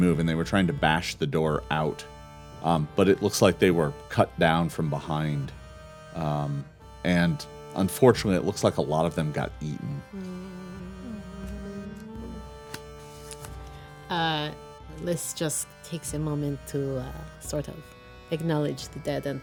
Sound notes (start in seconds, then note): 9.9 murmuring